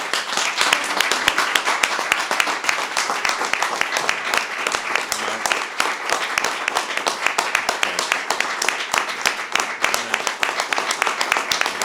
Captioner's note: applause